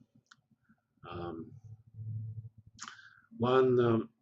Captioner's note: pause